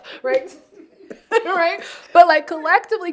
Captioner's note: all laughing